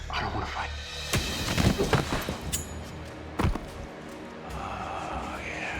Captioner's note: bob falls to ground; punch